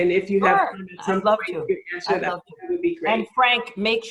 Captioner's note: overlapping chatter